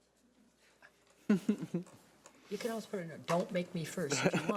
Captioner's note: laughing